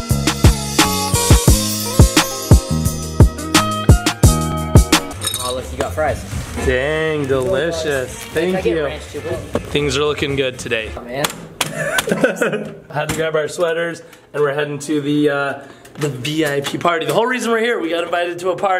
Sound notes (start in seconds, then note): 0.0 groove music; 11.6 laughing; 12.7 knocking